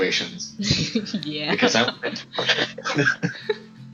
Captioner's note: petty giggles